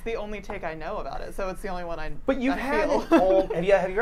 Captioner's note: chuckles